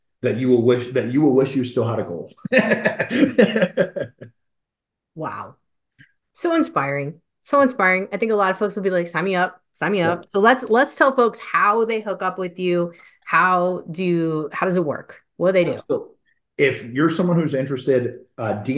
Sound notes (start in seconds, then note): 2.4 laughing